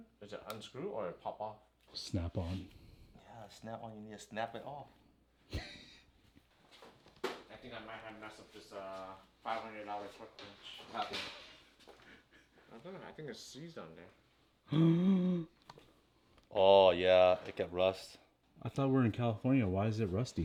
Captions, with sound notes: Does it unscrewed or pop off? Snap-on. Yeah, Snap-on, you need to snap it off. (laughing) I think I might have messed up this $500 torque wrench. I think it's seized on there. (gasping) Oh yeah, it get rust. I thought we were in California, why is it rusty?